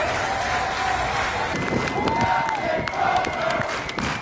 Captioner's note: applause; cheers